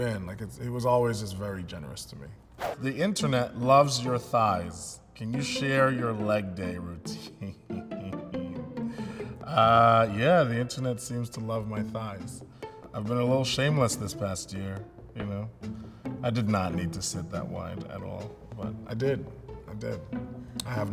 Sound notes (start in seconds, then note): 7.3 laughs